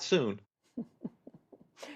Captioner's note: laughter